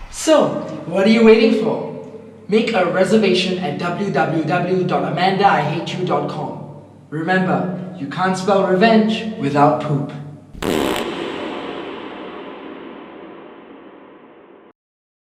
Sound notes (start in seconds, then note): 10.5 fart noise; 12.0 fart echo